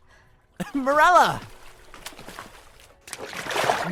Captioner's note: deep breath as she breaks surface